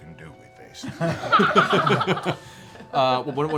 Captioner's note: laughter